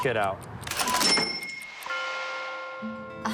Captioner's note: cash register sound